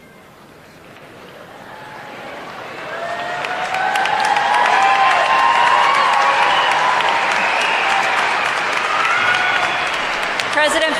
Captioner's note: applause